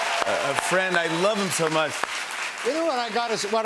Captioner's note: cheers and applause